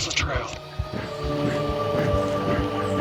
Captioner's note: running sounds